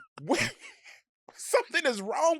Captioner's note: Delta laughing